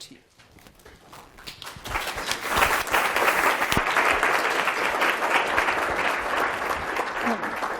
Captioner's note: applause